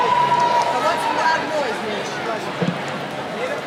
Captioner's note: cheering